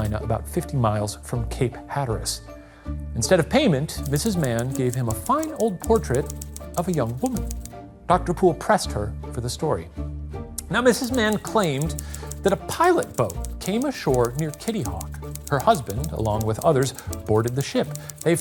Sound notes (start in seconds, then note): 4.0 typewriter clicking; 11.5 typewriter clicking